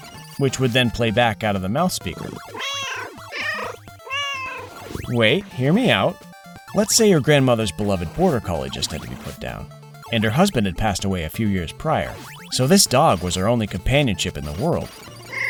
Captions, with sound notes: which would then play back out of the mouth speaker. (Meow) Wait, hear me out! Let's say your grandmother's beloved border collie just had to be put down, and her husband had passed away a few years prior. So this dog was her only companionship in the world.